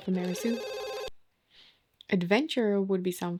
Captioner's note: phone rings